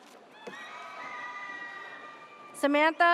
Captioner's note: audience cheers